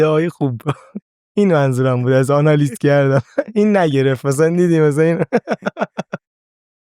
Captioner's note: laughs; laughs